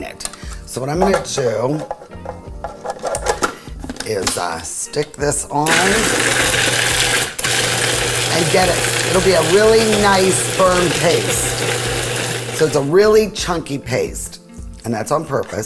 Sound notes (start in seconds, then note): 5.6 food processor grinding